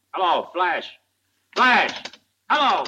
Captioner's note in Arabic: نقرة على الهاتف